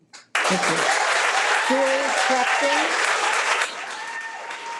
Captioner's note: audience cheering